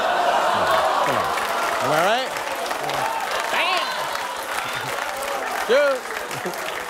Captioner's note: laughter